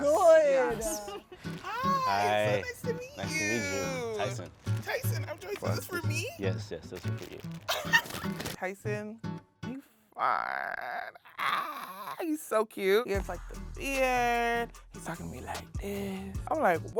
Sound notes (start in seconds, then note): 7.6 laughing